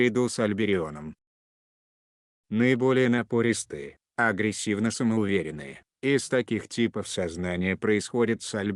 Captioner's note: aggressively self-confident